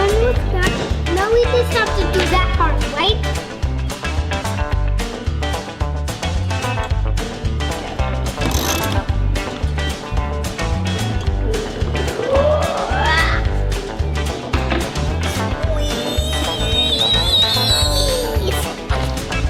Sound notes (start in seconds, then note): 8.2 racheting; 14.5 straining